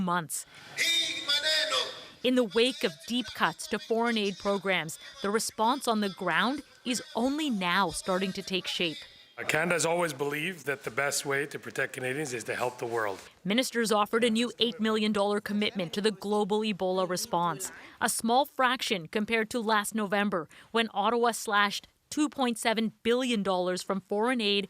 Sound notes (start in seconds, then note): 6.3 foreign language